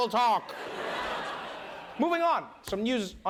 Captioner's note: laughter